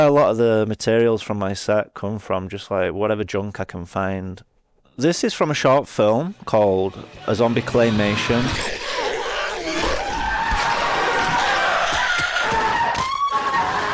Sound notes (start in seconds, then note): 9.5 zombie growling; 10.8 people screaming